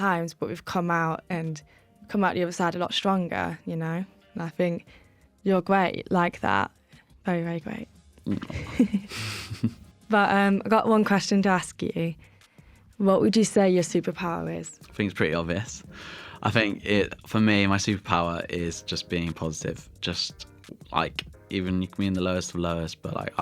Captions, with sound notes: but we’ve come out the other side a lot stronger, you know. I think you’re great like that, you’re great. [GIGGLES] But I’ve got one question to ask you. What would you say your superpower is? I think it’s pretty obvious. I think for me, my superpower is just being positive, just like even you can be in the lowest of lowest,